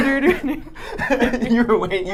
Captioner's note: group laughing